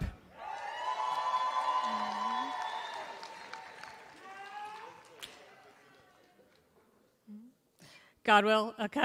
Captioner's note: applause